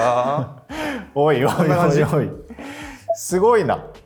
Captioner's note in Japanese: 笑い